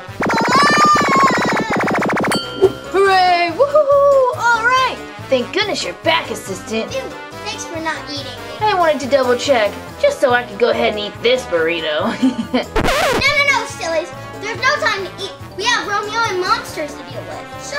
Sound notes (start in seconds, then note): 0.0 laser zaps; 2.3 bell dings; 3.3 others cheer; 12.7 record scratches